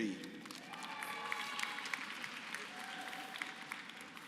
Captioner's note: applause